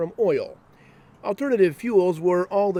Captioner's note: voiceover